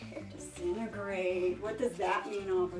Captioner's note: laughs